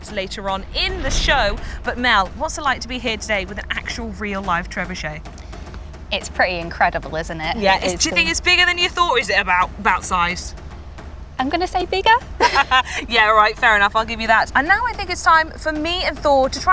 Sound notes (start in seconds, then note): 12.4 laughs